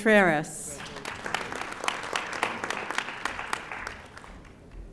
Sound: audience applauding

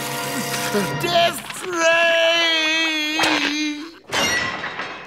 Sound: screaming

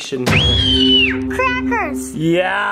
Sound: screaming

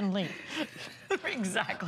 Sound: laughter

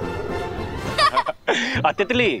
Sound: laughs

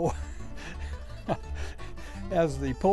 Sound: chuckles

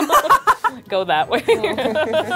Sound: erupt in laughter

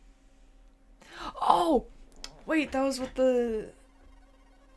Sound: gasp

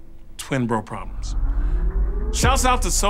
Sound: sigh

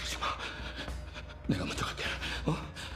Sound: both breathing heavily

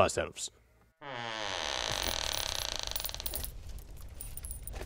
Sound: door squeaks open

